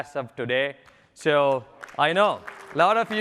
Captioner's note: applause